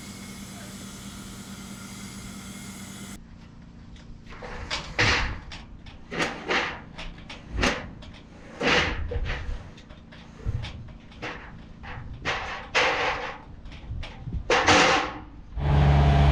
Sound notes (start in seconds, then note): 5.4 roofing sheets clanking